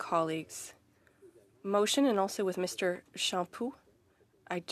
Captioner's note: speaking French